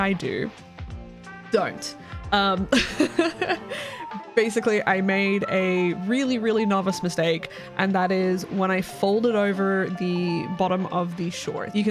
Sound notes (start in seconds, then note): 2.7 laugh